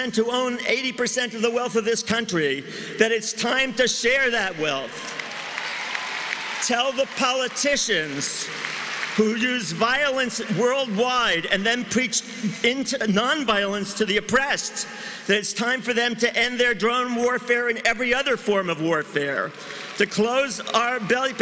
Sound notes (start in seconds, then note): 11.1 cheering and applause